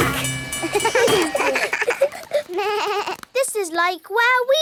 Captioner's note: all laugh